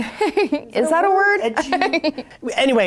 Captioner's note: laughing